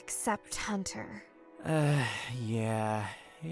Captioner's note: sighs